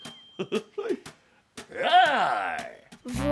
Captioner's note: tiger noise